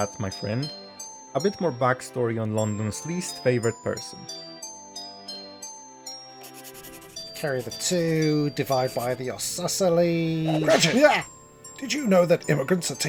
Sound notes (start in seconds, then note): 10.4 exclamation of surprise